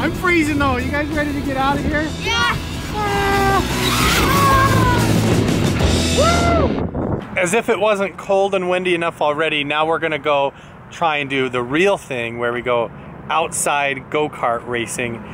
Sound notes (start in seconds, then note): 3.2 shouting